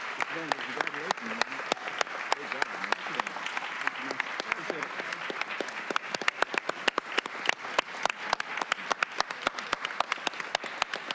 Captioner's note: applause